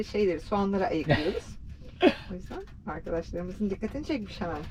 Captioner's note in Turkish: kahkaha